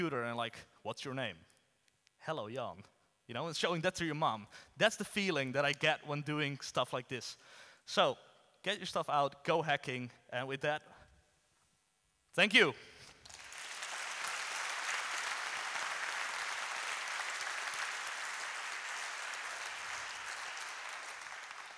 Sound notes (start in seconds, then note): 13.1 audience applauds